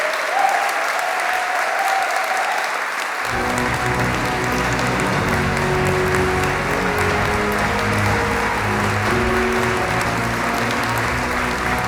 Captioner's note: applause